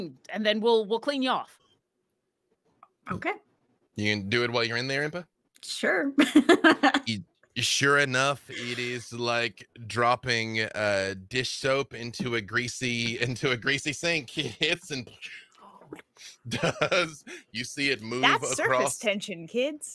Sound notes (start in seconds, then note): 8.1 laughs; 15.1 imitates explosion; 16.2 laughs